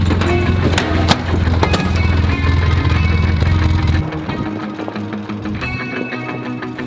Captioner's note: air fryer thuds; vehicle engine revs; catchy music